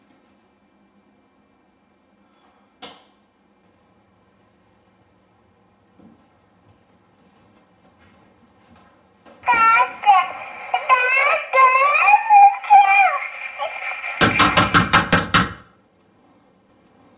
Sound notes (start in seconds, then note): 9.4 baby talking; 14.2 knocking